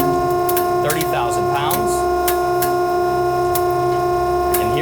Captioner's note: sling crackling